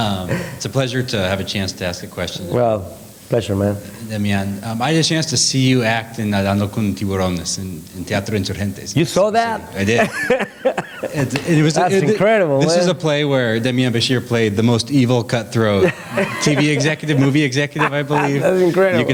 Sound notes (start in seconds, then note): 6.5 spanish